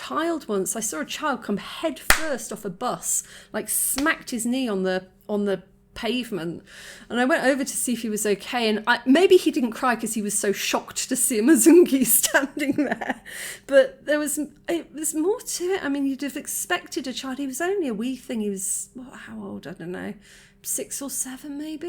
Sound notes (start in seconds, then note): 12.6 laughing